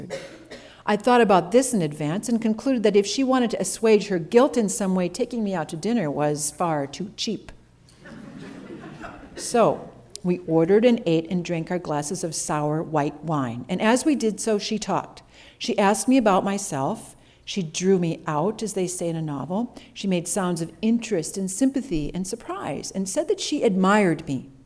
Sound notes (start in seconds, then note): 8.0 laughter